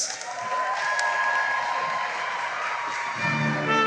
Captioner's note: cheering and applause